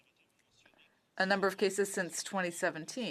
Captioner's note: speaking in French